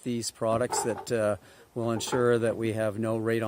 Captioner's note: construction banging